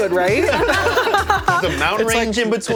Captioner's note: all laughing